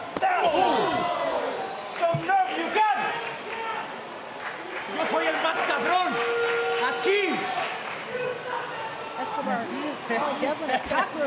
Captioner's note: spanish language